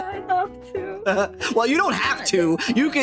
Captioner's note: laughing